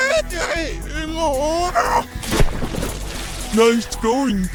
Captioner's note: scream